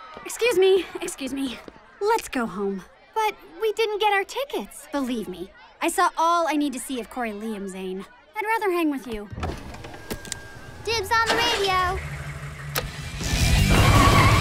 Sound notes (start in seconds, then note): 9.3 door opening; 10.6 camper starting